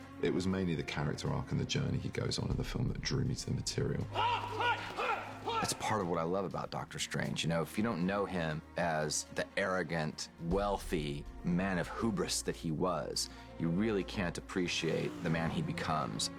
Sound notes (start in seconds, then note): 4.2 grunting